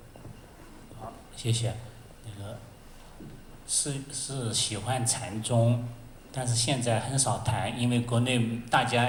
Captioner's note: Mandarin